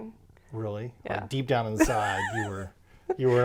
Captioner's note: laughs